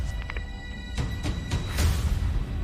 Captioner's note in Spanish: Clic